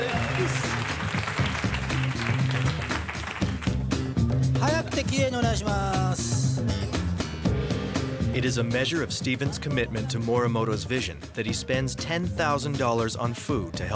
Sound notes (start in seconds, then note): 0.1 upbeat music; 4.9 speaking in foreign language